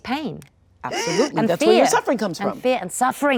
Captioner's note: inhales sharply